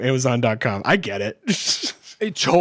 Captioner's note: laughs